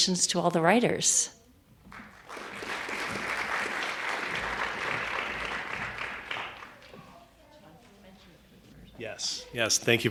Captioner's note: applause